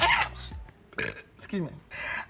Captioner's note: burping